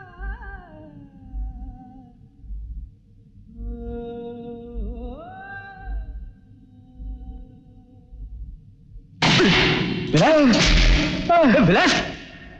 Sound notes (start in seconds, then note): 9.2 gunshot